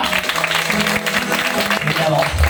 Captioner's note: applause